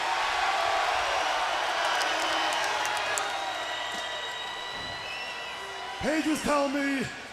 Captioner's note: crowd cheering